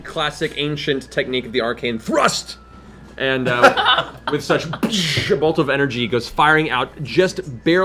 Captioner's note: boosh